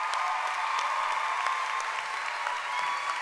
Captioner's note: cheering and applause